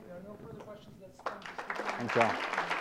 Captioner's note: applause